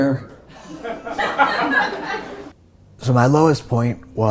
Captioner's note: audience laughs